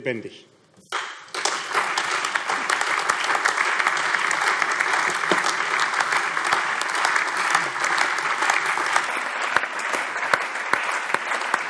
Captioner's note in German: Allgemeiner Beifall